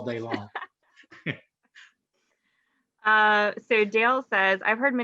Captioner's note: laughing